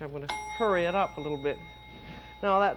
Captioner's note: dings